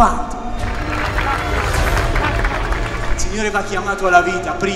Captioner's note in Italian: applausi